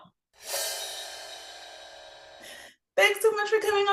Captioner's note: air whooshing